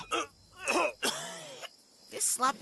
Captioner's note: coughing